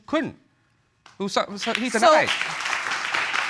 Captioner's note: audience clapping